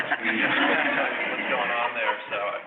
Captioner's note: audience laughs